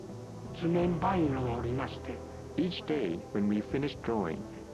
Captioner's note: speaking Japanese